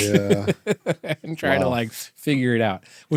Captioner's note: laughing